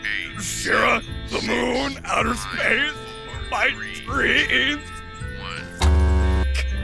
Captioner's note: grumbling frantically